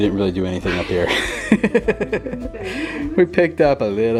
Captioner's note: laughter